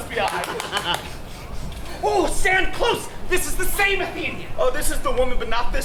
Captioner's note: sniffing